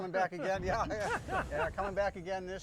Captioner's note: laughter